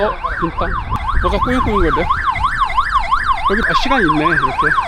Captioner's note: siren